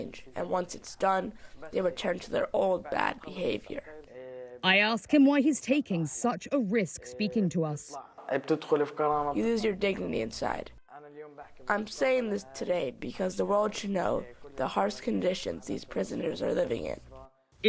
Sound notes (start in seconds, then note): 9.7 through translator